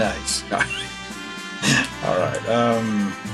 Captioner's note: laughs